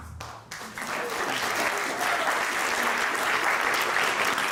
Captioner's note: applause